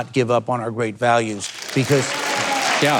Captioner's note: audience cheering